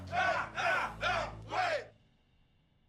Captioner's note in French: cris scandés